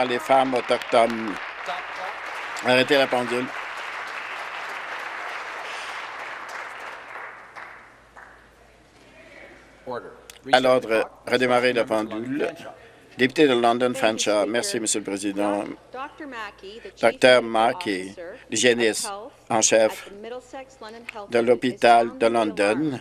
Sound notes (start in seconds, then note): 4.3 applause